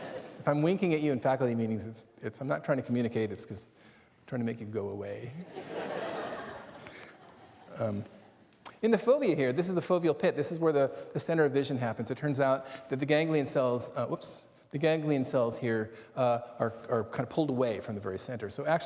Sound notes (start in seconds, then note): 8.0 laughter